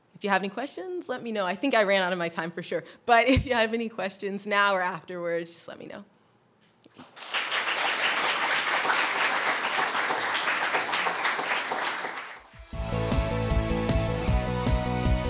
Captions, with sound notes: If you have any questions let me know. I think I ran out of my time for sure, but if you have any questions now or afterwards, just let me know. ( audience applauds) (upbeat music)